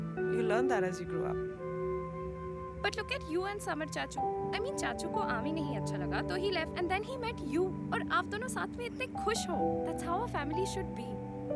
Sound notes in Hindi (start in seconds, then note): none